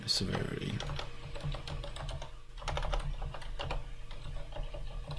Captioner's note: keyboard keys clanking